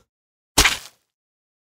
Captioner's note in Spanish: ¡Splat!